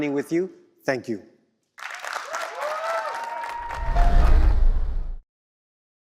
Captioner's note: applause